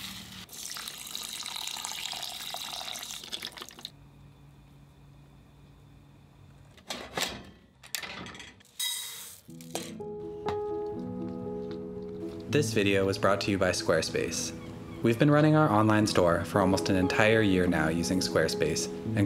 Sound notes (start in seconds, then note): 0.0 liquid pouring; 9.9 soft music